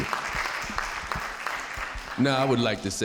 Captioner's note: audience applauding